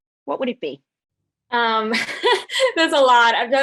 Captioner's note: laughs